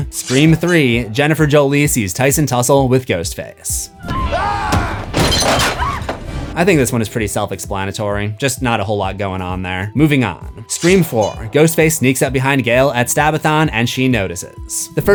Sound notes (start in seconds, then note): 4.0 screams